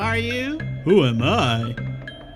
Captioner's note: In Aang's voice; in old man's voice